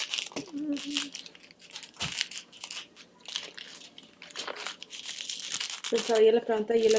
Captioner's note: plastic crinkling